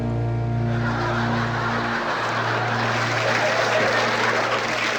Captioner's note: laughter and applause